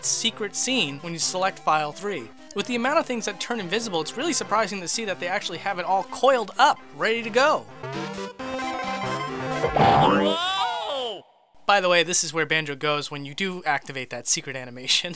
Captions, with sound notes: that secret scene when you select File 3. With the amount of things that turn invisible, it's really surprising to see that they actually have it all coiled up, ready to go! [Banjo screams] By the way, this is where Banjo goes when you do activate that secret animation.